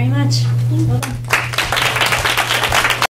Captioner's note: applause